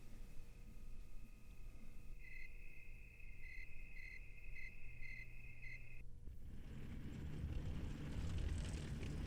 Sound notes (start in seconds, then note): 2.1 crickets chirping